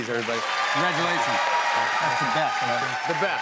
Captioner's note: cheers and applause